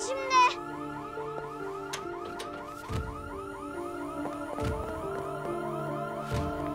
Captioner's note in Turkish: Alarm Çalıyor